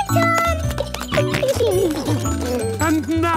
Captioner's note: giggling, snorting